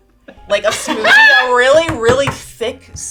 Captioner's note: laughing